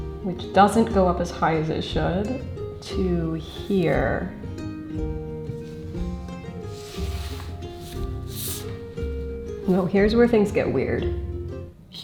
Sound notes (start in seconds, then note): 6.6 tools rustling on paper; 6.9 gentle bright music